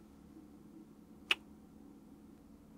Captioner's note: kiss